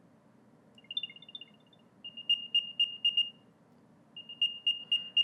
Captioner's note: beeping sound